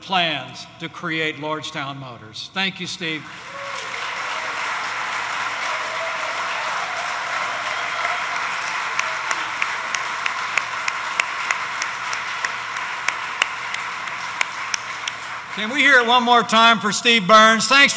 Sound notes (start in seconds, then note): 3.1 applause